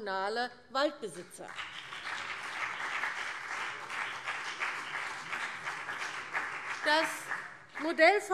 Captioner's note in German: Beifall CDU und BÜNDNIS 90/DIE GRÜNEN